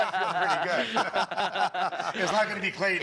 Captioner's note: laughter